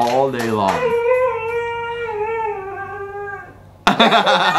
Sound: dog howling

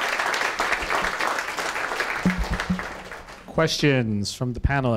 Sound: applause

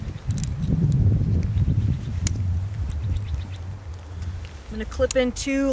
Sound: metal clicking

